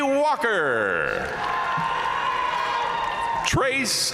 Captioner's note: audience cheering and applauding